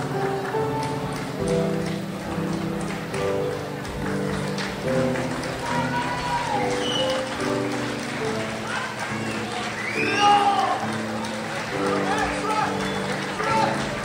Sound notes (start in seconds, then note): 7.0 crowd applauds and cheers